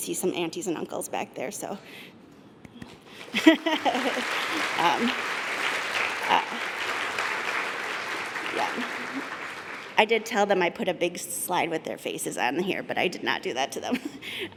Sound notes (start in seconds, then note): 3.2 laughter; 6.4 applause